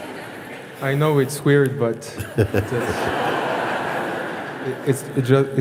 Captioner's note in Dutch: gelach